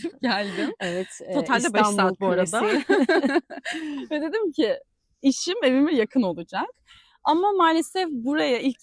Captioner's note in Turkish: kahkaha